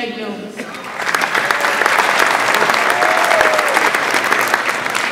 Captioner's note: audience applauds